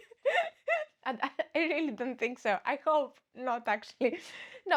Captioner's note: laughs